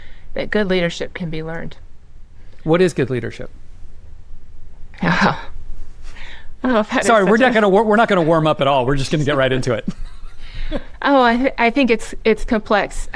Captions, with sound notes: good leadership can be learned. - What is good leadership? - Oh. (chuckles) - Sorry, we're not going to warm up at all. We're just going to get right into it. - Oh, I think it's complex.